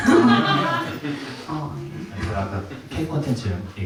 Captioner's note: laughs